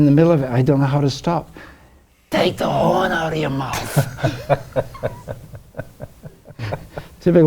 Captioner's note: laughs